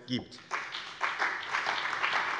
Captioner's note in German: Beifall bei dem BÜNDNIS 90/DIE GRÜNEN und der CDU